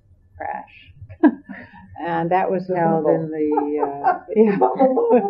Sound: laughs

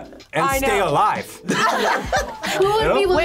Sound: group laughs

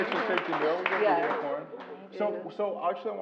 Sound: applause

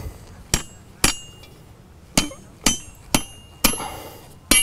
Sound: hammer falling

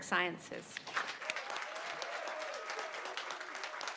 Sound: applause

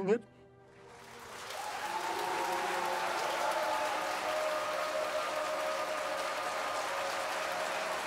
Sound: crowd cheering

